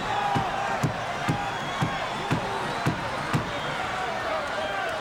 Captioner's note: crowd murmuring